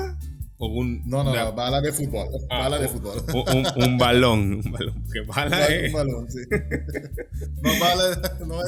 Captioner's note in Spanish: risas